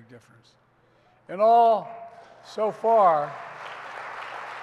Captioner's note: applause